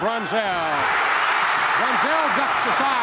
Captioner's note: crowd cheers